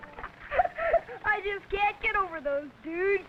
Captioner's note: laughing